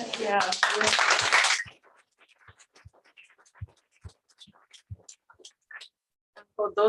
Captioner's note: applause